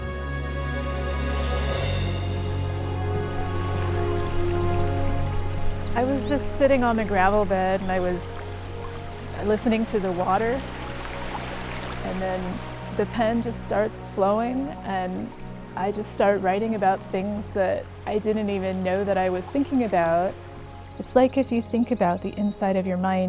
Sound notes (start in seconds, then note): 0.1 sweeping orchestral music; 3.7 water bubbling; 10.7 water rushing and bubbling